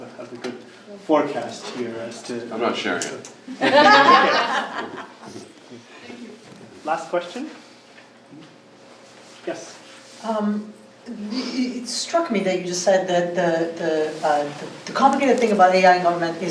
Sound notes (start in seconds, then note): 3.5 group laughing